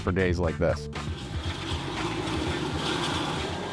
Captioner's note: machinery rumbling